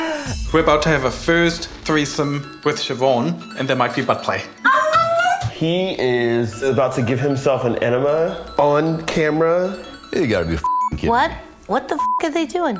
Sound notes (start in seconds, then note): 4.5 dog whines